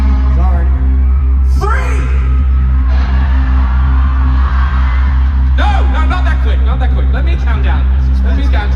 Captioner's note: crowd